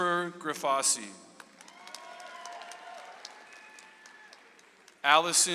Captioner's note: audience applauds